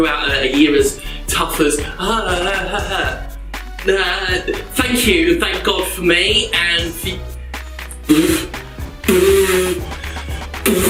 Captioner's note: ahhhhahaha